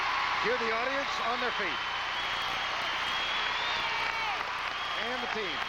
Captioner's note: applause